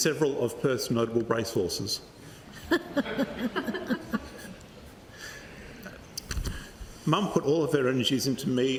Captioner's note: laughter